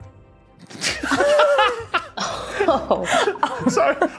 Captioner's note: group laughing